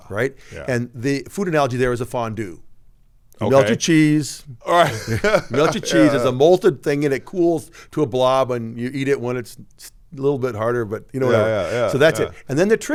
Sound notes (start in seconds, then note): 4.6 laughs